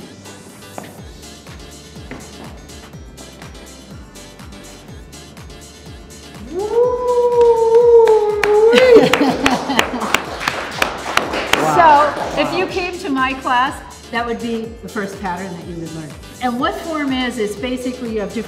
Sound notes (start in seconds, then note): 7.3 Tony clapping; 8.4 Cynthia laughs